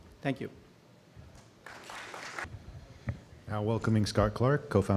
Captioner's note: applause